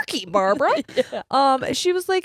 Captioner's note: laughs